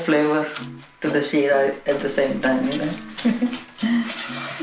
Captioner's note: laughs